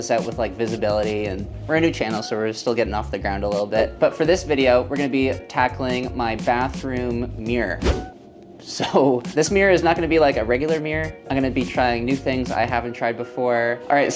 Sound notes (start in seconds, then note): 7.5 air whooshing